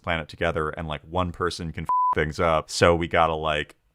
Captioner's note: beep